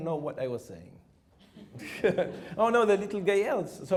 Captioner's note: chuckles